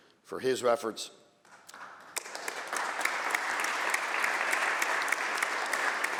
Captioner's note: applause